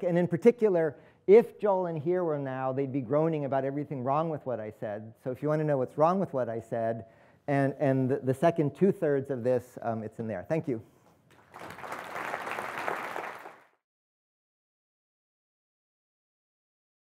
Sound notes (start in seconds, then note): 11.3 applause